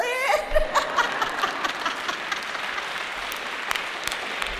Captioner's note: laughter, applause